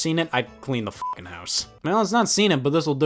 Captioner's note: beep